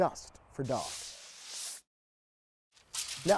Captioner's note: paint spraying; paper crumpling